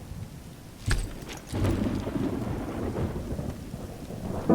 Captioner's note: saddle thudding